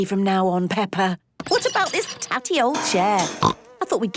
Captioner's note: snorting